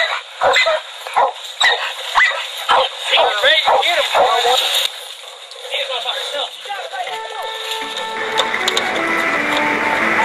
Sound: barking

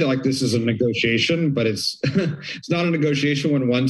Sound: chuckles

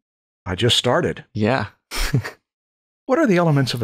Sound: laughter

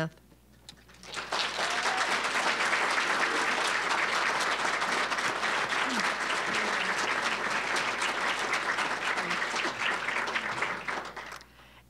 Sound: applause

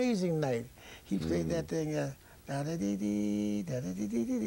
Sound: humms

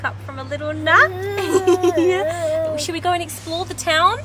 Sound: cooing; giggling

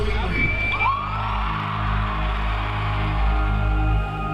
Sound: crowd cheering

